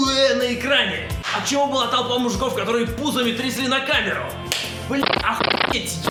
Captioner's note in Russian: хлоп; хлоп